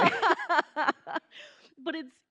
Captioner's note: laughing